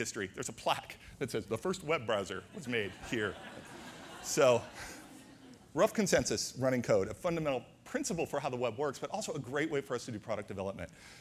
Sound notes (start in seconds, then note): 2.5 audience laughter